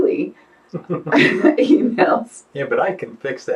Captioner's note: laughing